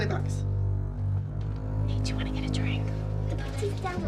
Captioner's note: whispers